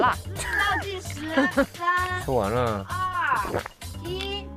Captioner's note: still chewing, still chewing